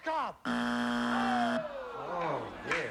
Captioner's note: buzzer